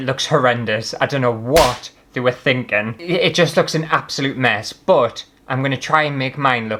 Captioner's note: slap!